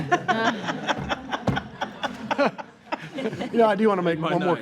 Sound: all laughing

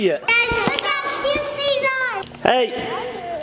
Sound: kids shouting

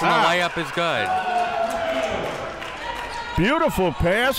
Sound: spectators applauding

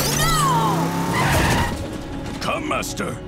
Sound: tires screeching

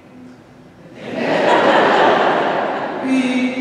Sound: crowd laughing

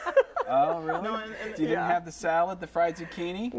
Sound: laughter

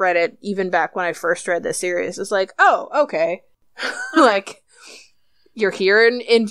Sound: laughs

